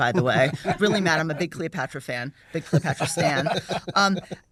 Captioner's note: laughter; laughter